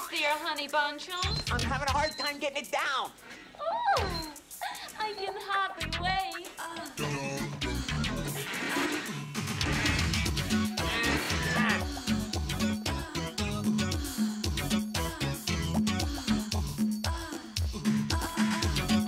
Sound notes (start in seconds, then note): 7.6 grunting